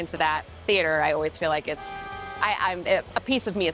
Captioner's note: horn honking